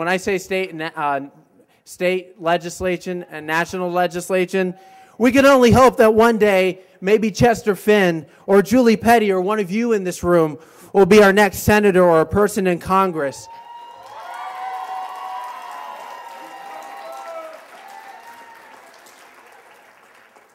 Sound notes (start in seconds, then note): 13.4 cheers and applause